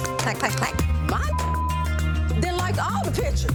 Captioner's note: beeps